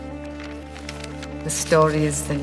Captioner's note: paper rustling